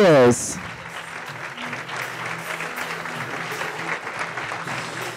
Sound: audience applauding

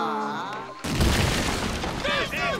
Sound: thudding

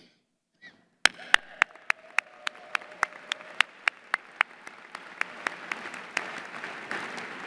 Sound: applause

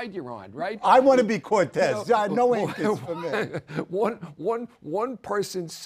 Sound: laugh

